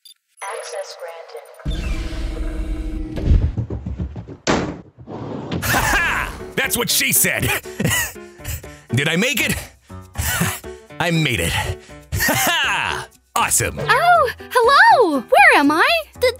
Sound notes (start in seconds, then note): 0.0 keypad sounds; 1.6 mechanical door opens; 4.0 another door opens; 8.2 pants; 11.4 pants